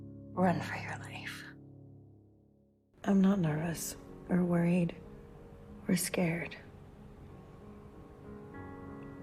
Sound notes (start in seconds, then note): 3.3 voiceover